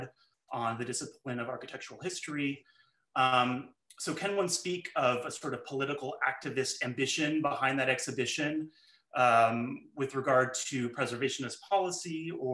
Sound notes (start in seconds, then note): none